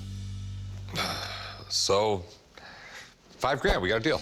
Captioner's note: sighs